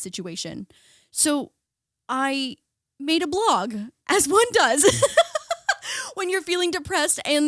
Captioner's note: laughing